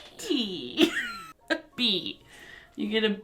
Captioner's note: laughs